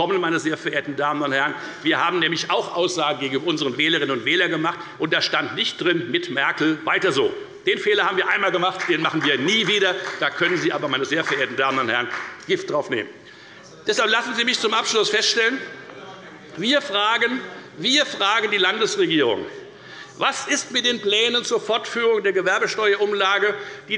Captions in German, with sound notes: denn auch wir haben gegenüber unseren Wählerinnen und Wählern Aussagen getroffen. Die lauteten nicht „Mit Merkel weiter so“. Diesen Fehler haben wir ein einziges Mal gemacht; den machen wir nie wieder. Darauf können Sie Gift nehmen. [Beifall bei der FDP] Lassen Sie mich zum Abschluss Folgendes feststellen. Wir fragen die Landesregierung: Was ist mit den Plänen zur Fortführung der Gewerbesteuerumlage,